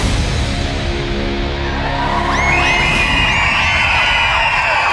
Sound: crowd cheering

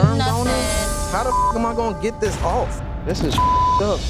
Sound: beeping

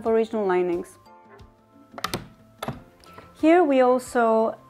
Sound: wooden doors creak and shut

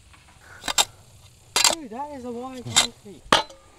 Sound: metal clanking

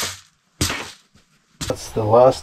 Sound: shoes scraping

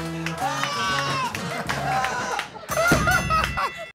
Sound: ding!

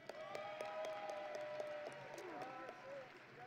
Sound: audience and graduates cheering

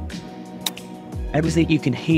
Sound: club clicks

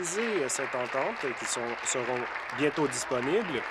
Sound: applause

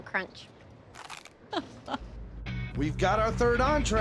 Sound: crunch

